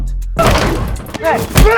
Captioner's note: crash